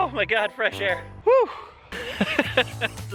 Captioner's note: laughing like he didn't just throw up